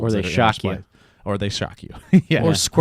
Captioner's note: laughs